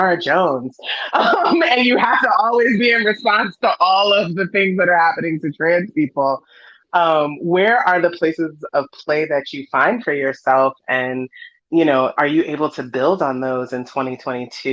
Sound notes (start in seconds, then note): 0.9 laughs